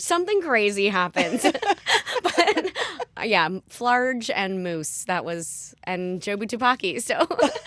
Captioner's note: laughter; laughter